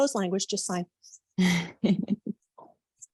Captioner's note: chuckles